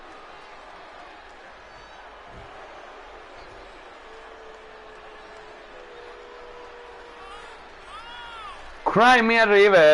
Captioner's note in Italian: Applauso